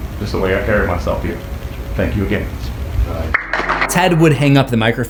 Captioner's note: applause